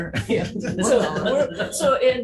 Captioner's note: all laugh